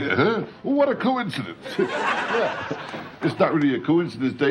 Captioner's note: audience laughs